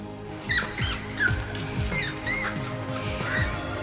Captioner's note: rats squeaking